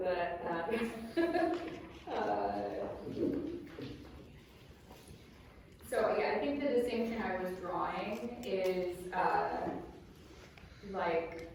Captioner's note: laughs